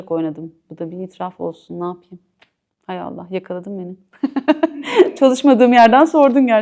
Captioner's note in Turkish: kahkaha